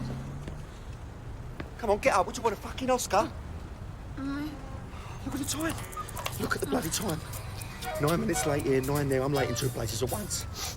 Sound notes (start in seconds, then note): 3.6 moaning